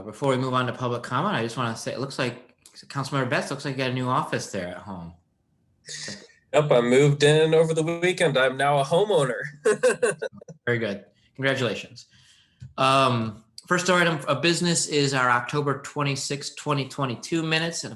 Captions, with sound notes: Before we move on to public comment I just wanna say, it looks like, council member Batts, looks like you got a new office there at home. - Yep, I moved in over the weekend. I am now a homeowner! (laughs) - Very good. Congratulations. First order of business is our October 26th, 20 22 minutes.